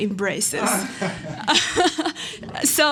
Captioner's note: laughter